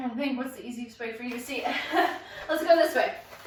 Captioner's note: chuckles